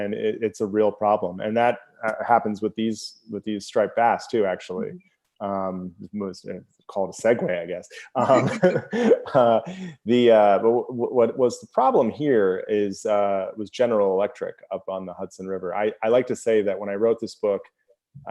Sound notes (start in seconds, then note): 7.9 both laugh